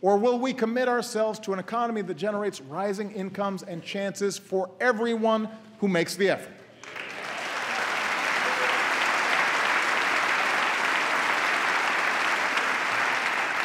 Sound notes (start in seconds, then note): 9.1 applause